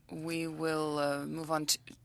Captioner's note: speaking French